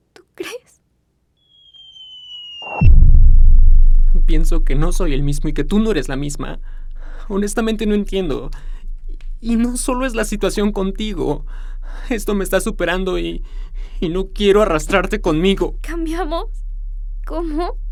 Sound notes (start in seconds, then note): 1.4 whistling sound of freefall